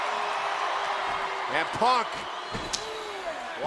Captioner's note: crowd cheering